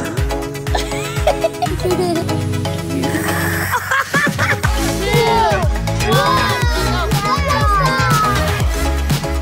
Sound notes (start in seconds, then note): 0.6 laughing